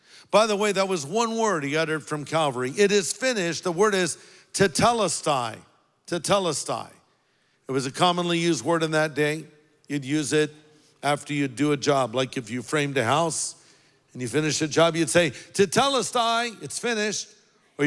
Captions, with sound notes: By the way, that was one word he uttered from Calvary. "It is finished," the word is (speaks in foreign language). It was a commonly used word in that day. You'd use it after you'd do a job, like if you framed a house and you finished the job, you'd say (speaks in foreign language), it's finished.